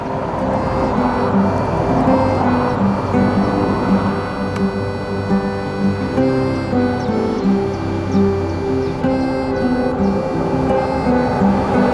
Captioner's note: distant sound of train over the viaduct